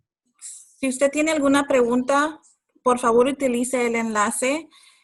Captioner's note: speaking Spanish